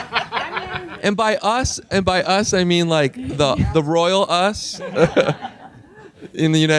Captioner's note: laughing